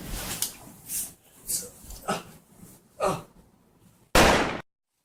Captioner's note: Indy Grunting; gunshot